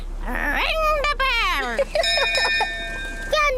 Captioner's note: laughs; rings bell